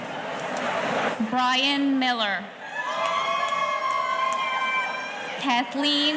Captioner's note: audience cheering